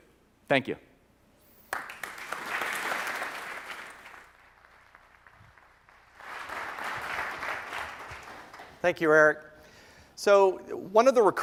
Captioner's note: applause